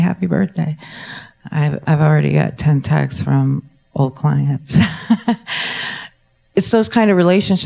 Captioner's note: laughs